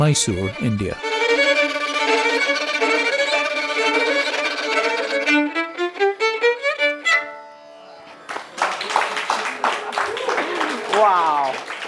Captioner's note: applause